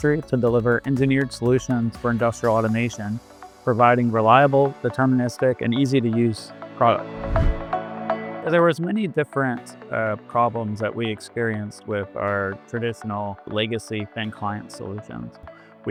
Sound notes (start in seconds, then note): 6.8 upbeat music continues; 7.1 air whooshes